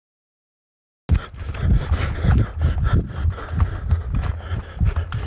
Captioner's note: Dave breathing heavily